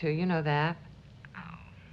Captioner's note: on phone